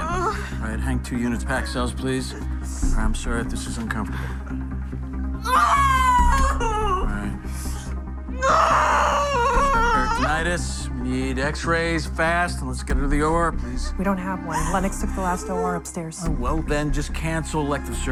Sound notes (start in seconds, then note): 5.2 screams